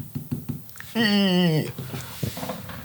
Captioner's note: ahhhhh